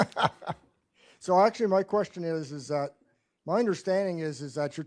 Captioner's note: laughs